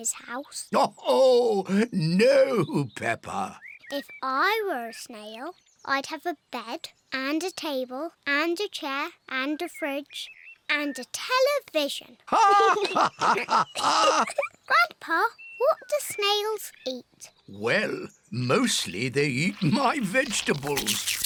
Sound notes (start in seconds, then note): 1.0 laughs; 12.2 both laugh; 12.3 laughs